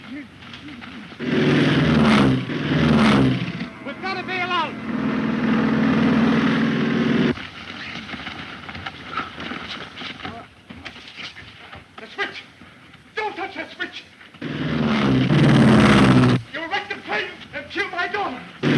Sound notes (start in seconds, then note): 1.2 Phantom buzzing; 7.4 bodies scuffling; 14.4 Phantom buzzing